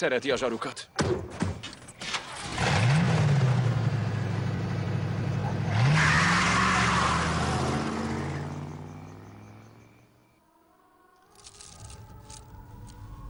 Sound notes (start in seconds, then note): 0.2 starts engine; 3.8 tires squeal